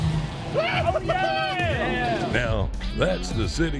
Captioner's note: cheering